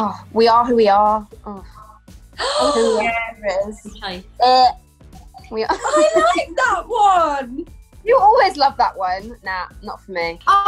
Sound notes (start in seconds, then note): 2.4 gasps